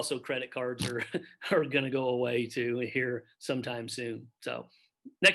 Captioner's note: chuckles